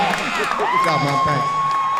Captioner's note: audience cheering and clapping loudly